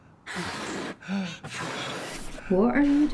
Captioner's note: balloon inflating